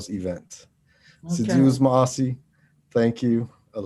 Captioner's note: speaking foreign language